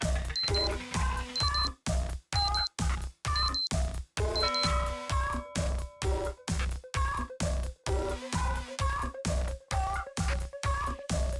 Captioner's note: beep Sound